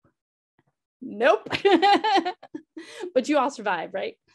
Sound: laughing

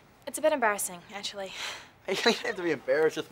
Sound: chuckles

